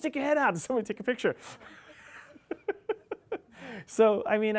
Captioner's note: laughing